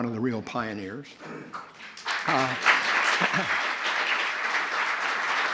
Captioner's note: applause